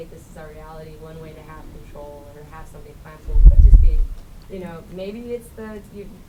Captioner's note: voice muffled